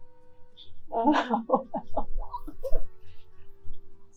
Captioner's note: laughing